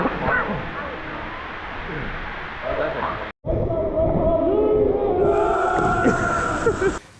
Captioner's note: laughing